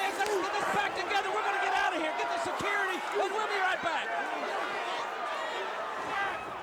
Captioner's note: crowd cheering